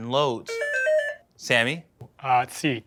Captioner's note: beeping